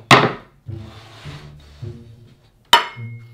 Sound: board sliding

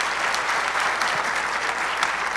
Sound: applause

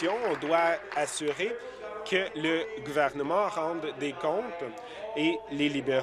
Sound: applause

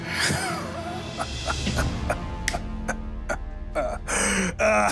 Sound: laughs mockingly

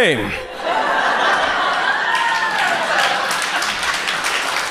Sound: audience cheers

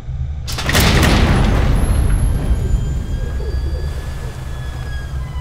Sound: door opening

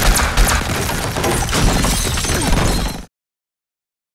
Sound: glass shattering

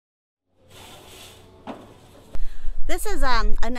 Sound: trays clanking

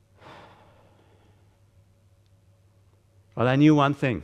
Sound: breathy sigh

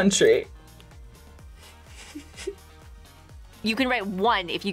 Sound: laughs

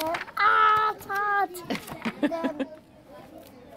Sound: laughs

